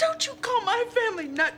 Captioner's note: crying